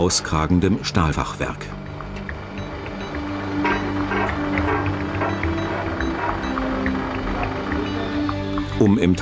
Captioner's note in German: Maschinengeräusche